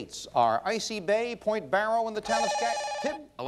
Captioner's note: bell rings